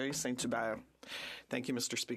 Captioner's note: speaking French